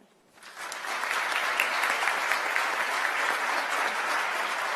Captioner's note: applause